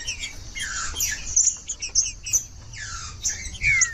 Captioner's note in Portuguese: trinca ferro cantando